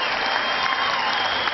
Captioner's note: cheering